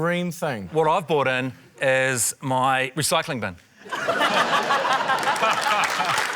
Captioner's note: laughter